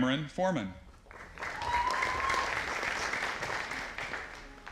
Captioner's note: audience applauding